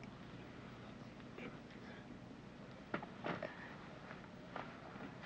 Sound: Otto whispering

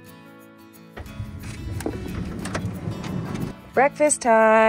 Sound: gentle music; door clicking

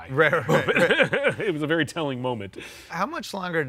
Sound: laughs

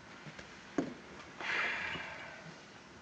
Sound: sighs

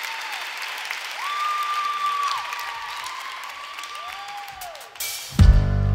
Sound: applause

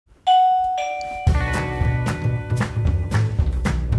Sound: doorbells; dynamic music

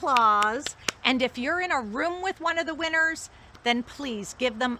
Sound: applause

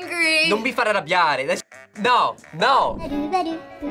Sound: speaks Italian

